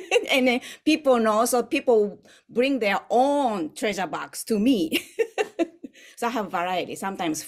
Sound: laughs

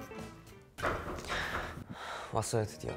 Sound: knock knock

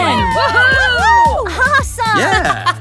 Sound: all cheer

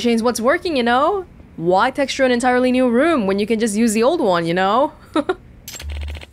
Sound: chuckles

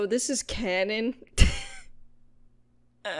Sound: laughs

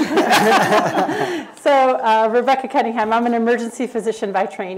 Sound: laughter

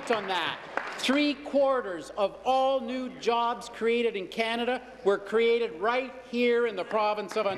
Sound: applause

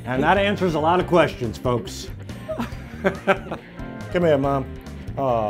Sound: chuckles

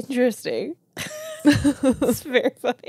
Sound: chuckle

